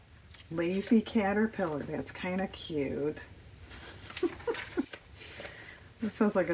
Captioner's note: laughs